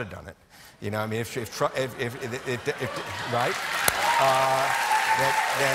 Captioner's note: cheers and applause